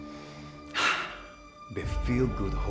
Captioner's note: Alejandro sighs